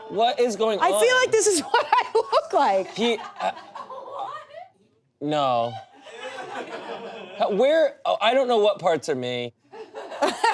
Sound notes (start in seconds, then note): 6.0 audience laughs